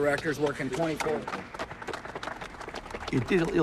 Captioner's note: applause